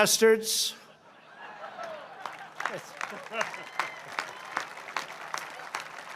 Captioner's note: laughter and applause